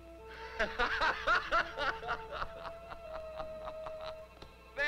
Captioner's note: laughs